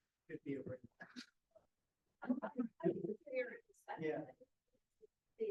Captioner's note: audience members speaking indistinctly